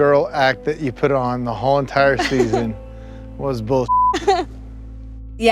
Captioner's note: beep